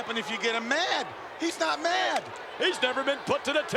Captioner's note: Yokozuna claps